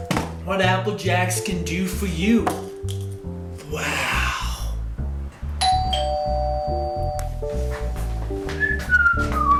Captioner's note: door bell rings